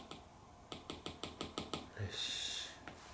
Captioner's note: tap tap tap tap; tap tap tap tap tap tap tap